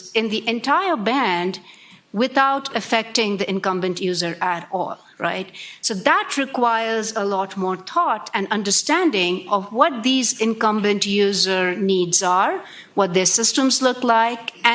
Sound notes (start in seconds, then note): none